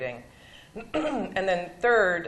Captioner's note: clears throat